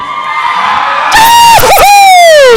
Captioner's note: cheering